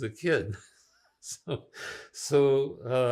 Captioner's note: laughing